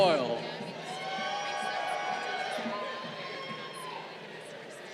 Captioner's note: crowd cheering